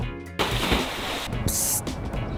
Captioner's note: water splashes